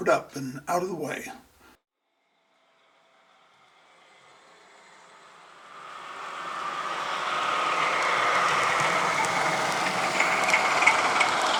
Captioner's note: applause